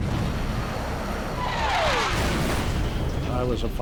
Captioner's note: explosion